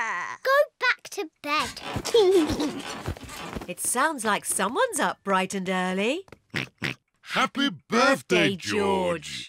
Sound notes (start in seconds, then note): 2.0 laughs; 6.5 oinks